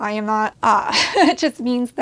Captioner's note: laughs